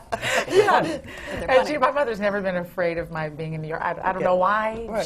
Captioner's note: laughs